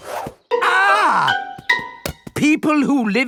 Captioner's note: screams